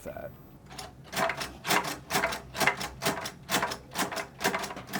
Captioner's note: device hammering